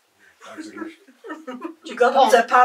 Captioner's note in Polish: śmiechy